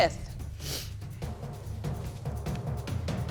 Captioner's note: sniffling